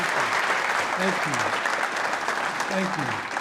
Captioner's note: applause